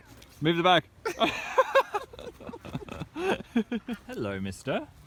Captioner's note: both laughing